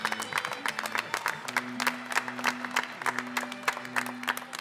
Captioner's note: applause